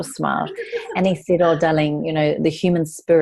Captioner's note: laughs